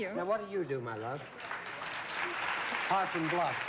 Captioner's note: audience applauds